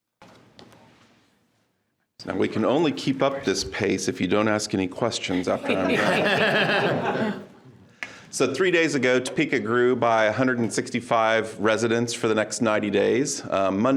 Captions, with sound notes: - Now we can only keep up this pace if you don't ask any questions after I'm done. (people laughing) So three days ago, Topeka grew by 165 residents for the next 90 days.